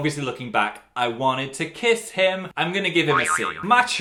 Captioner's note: boing